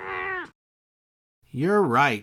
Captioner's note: meow!